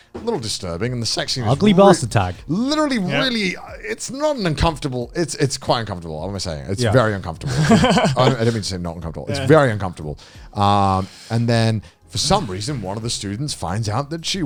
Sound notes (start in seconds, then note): 7.4 laughing